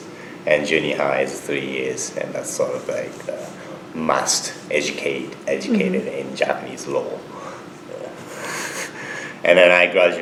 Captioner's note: laughs